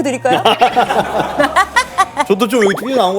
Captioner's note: haha